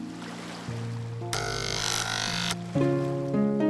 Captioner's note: electric razor buzzing